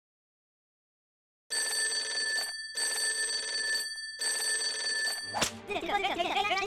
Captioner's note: the counter phone rings once more